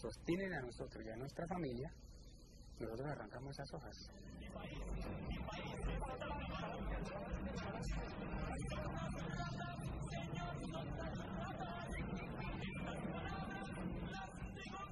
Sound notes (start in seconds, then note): 4.3 non-English narration